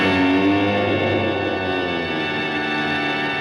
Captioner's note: groaning